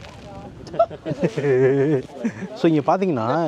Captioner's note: laughs